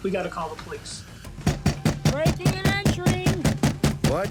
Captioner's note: pounding